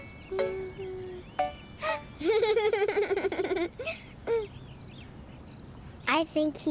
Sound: giggle

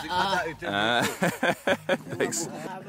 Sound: laughs

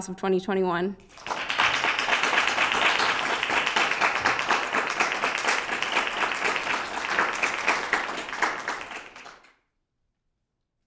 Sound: applause

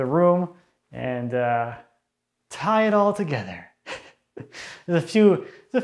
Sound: laughs

